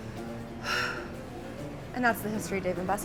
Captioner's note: sighs